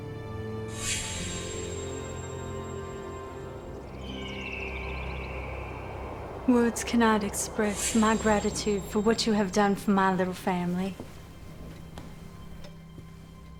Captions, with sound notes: (eagle whistles) - Words cannot express my gratitude for what you have done for my little family.